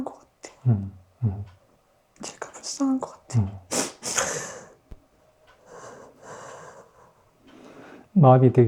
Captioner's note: sobbing